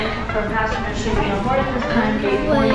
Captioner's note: airport ambience